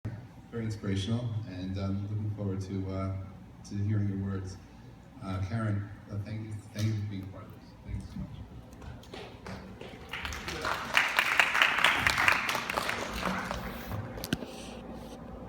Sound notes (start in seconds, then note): 9.0 applause